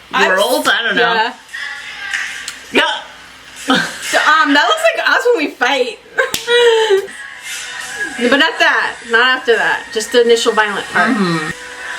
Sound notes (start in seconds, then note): 3.3 laughs; 6.2 both laugh